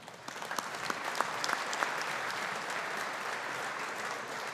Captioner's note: audience applauding